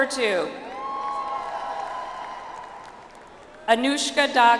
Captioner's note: audience applauds